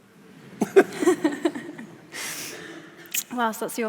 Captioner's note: audience laughs